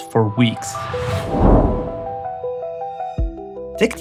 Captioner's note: whooshing